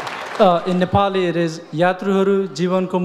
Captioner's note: speaks in foreign language